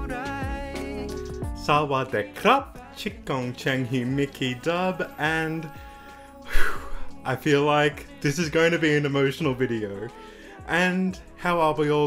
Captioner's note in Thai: ถอนหายใจ